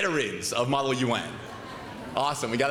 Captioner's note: laughter